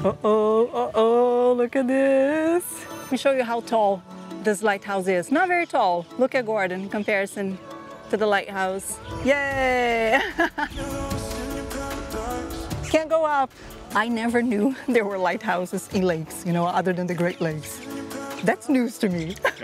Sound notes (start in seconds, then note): 9.8 laughs